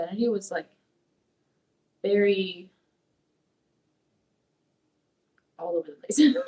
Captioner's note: laughs